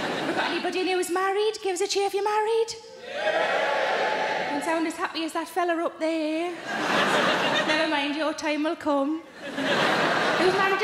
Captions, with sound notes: Have I got anybody who's married? Give us a cheer if you're married. (audience cheering) Didn't sound as happy as that fellow up there. (audience laughing) Nevermind, your time will come.